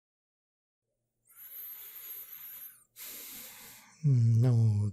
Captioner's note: heavy sighs